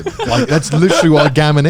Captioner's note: chuckling